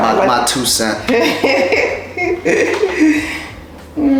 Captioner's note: laughter